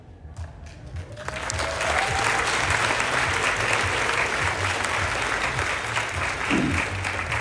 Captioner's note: applause